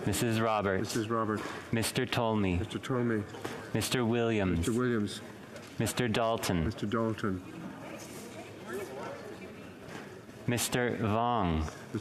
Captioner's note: speaking French